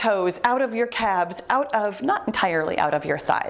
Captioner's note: timer beeps